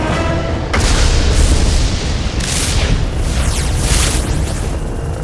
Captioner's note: thunder crashing